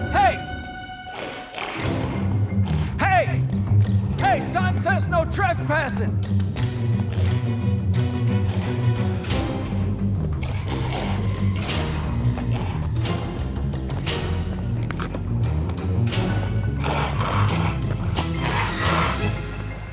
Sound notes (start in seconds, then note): 7.2 dramatic music; 10.2 figure growling; 16.0 dramatic music continues